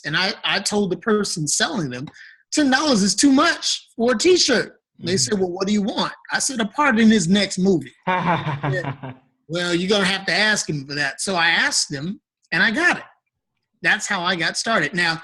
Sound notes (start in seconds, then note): 8.0 laughs